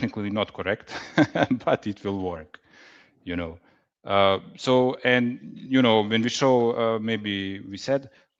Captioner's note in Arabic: ضحك